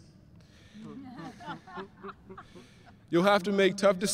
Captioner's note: everyone laughing